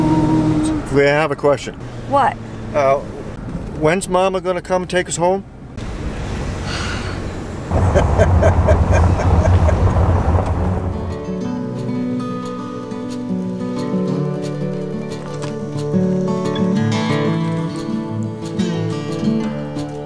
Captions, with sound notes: I have a question. What? When's mama gonna come take us home? [big sigh] [laughs at his own joke]